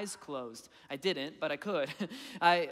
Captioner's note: laughing